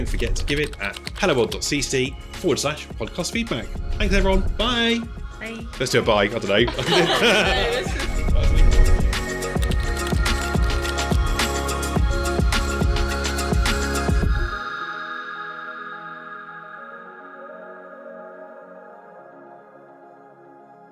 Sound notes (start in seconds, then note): 6.6 laughter; 8.5 upbeat music